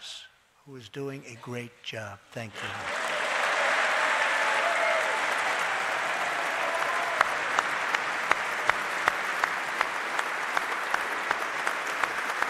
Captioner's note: applause